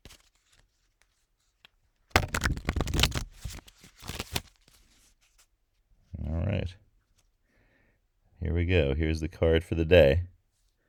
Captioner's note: cards shuffling